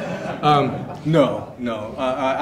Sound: audience chuckles

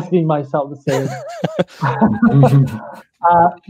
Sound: chuckles

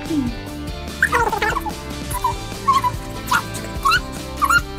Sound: video tape squeaking

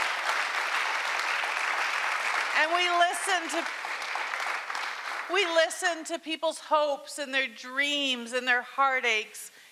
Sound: cheering and Applause

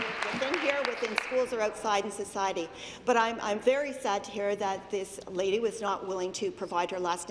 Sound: applause

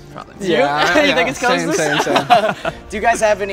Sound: all laugh

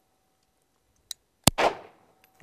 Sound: bang

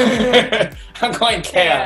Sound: laughing

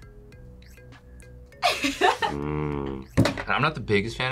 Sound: laughs

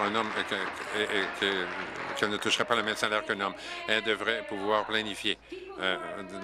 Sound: applause

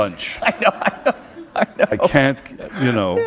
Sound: laughter

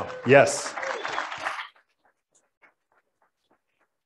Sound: applauding

